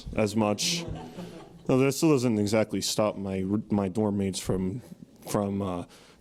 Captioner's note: laugh